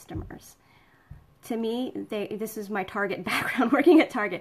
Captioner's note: laughing